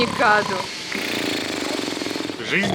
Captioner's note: snoring sound